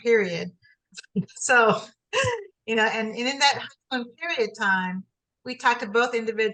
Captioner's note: laughs